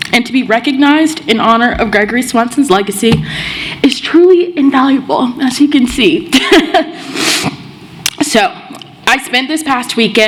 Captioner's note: laughs